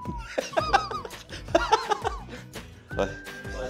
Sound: laughs

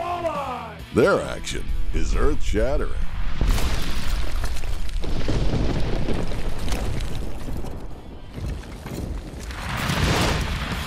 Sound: voiceover

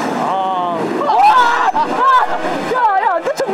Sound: someone makes a splash

